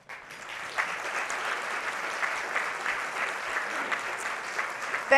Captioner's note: audience clapping